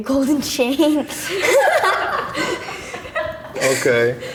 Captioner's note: laughs